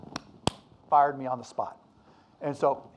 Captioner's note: claps hands